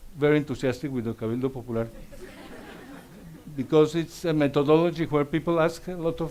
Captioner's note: speaks Spanish